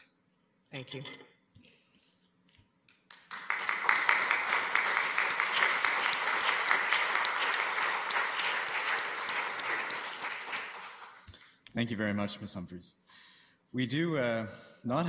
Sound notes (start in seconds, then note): 3.0 applause